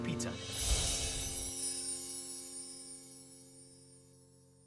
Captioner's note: bright twinkling